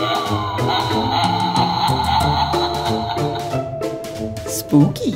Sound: doorbell laughs

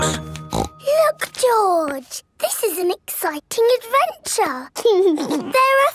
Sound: snorts; giggles

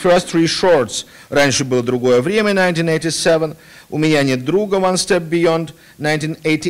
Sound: non-english speech

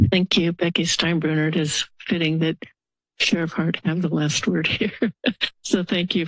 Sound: laughs

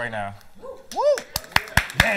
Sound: cheering

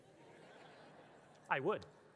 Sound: audience laughing

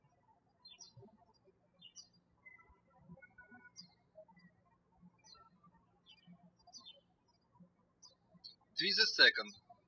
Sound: birds chirping

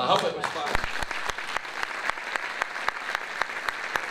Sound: applause

